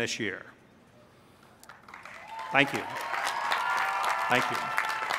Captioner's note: applause